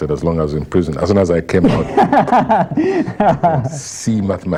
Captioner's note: laughter